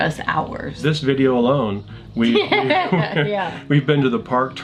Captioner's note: laughing